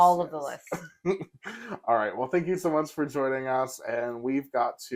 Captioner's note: laugh